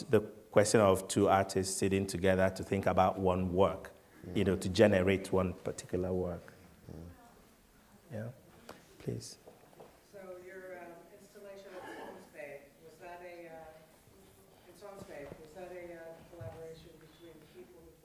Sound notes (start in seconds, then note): 10.5 voiceover; 11.6 coughing